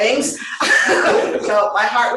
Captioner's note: laughter